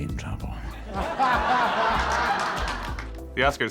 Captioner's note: audience guffaws